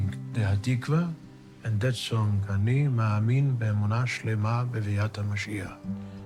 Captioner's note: speaking in foreign language